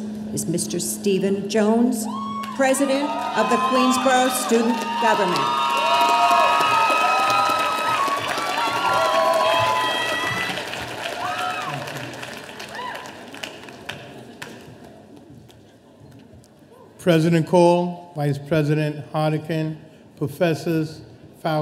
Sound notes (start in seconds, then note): 5.2 audience cheering